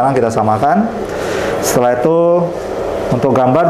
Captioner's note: inhale